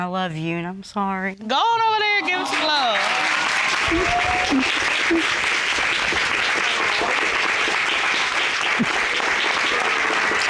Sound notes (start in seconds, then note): 4.4 applause